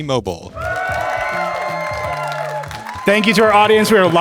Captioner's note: attendees cheering